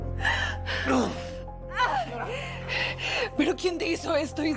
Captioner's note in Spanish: Quejidos